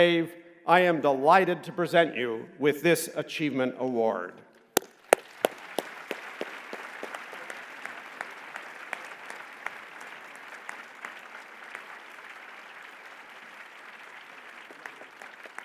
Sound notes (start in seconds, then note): 4.8 applause